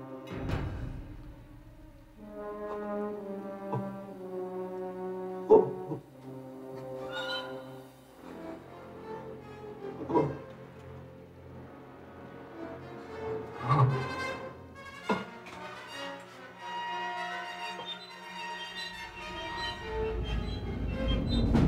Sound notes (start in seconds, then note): 0.3 dramatic music; 3.8 Donald gasping; 10.2 Donald groaning; 10.2 dramatic music